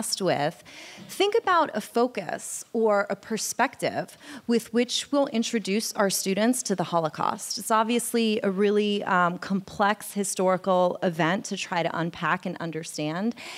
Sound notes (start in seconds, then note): none